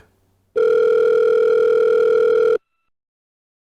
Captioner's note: phone ringing